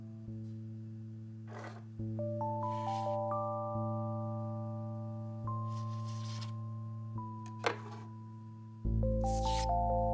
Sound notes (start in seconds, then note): 1.5 knife scraping